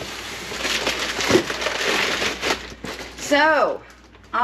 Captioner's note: paper crunching